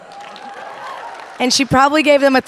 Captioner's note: audience applauding cheering